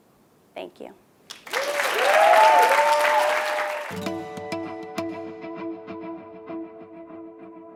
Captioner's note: applause